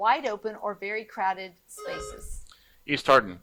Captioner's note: buzzer buzzing